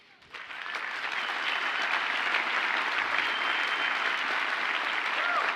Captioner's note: audience cheers and applauds